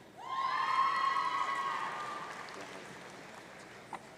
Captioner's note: audience cheering